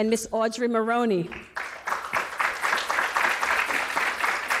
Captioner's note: applause